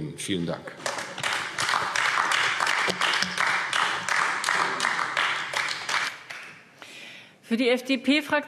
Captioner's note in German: Beifall AfD